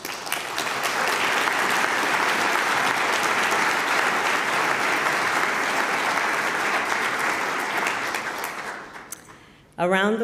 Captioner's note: applause